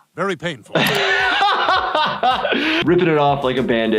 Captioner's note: laughs